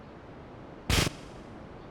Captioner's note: gun firing